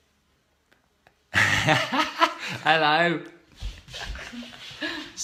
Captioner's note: laughs